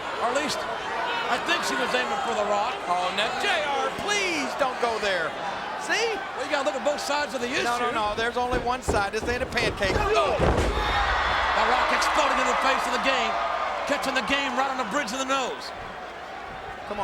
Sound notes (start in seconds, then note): 9.6 crowd cheering; 10.4 wrestlers thudding